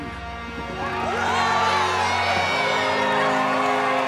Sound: cheering

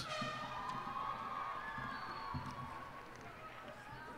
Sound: cheers and applause

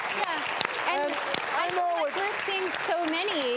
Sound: audience applauds

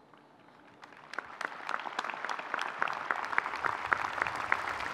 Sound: audience clapping

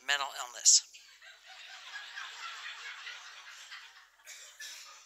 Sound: laughter

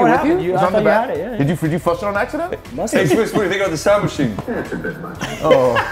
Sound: laugh

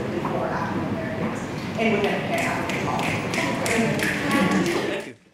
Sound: claps

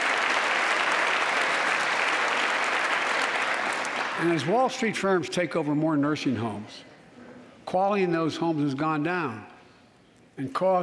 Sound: applause

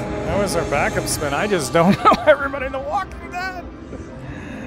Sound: laughing

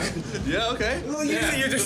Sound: laughs

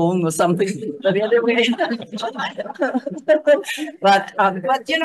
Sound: group laughing

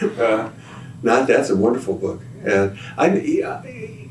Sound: laughter

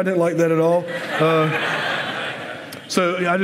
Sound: laughter

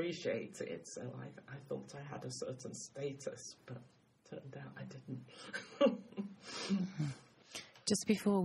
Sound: laughs

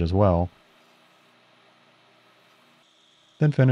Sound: lathe machine whirring

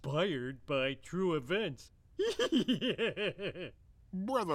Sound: giggles

